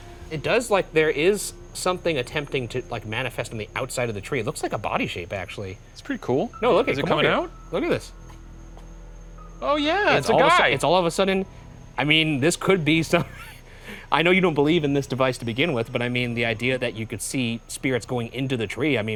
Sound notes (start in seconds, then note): 8.7 tense music; 13.0 laughs